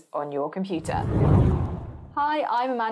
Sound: whooshing

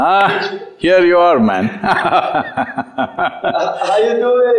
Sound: laughs

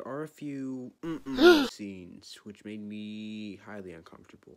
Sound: chroat tlearing

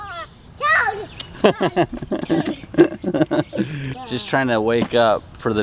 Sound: laughing

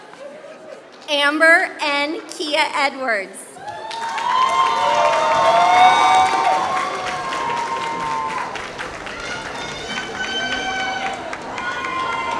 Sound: applause

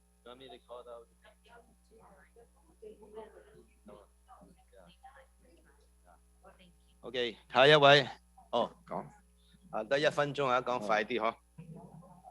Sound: speaking non-english

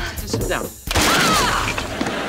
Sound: thudding

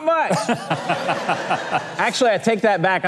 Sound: audience laughing

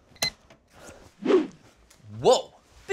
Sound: alarm clock beeps; whoosh!

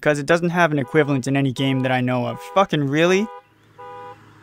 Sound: distant car alarm

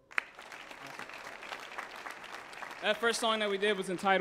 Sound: audience applauds

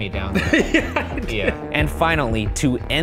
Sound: laughing

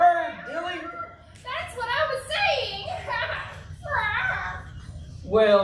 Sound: laugh and meows

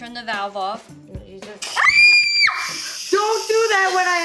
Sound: screaming

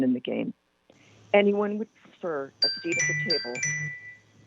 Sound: chime

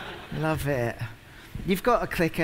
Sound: laughter

